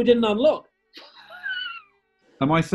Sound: sniggering

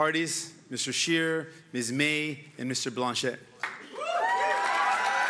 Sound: cheering

